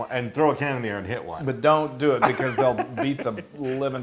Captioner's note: laugh